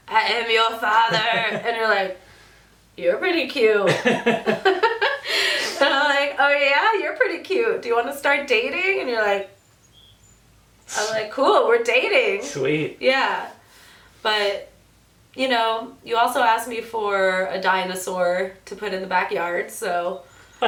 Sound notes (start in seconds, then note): 0.0 imitating Darth Vader; 0.9 laughs; 3.8 both laugh